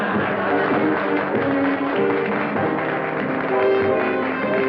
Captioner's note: laughter; applause